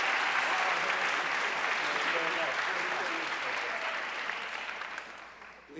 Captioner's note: audience cheering and applauding